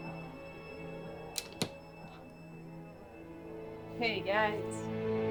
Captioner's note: soft tense music; door clicking; melodic orchestral music